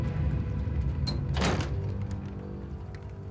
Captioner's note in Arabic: يغلق الباب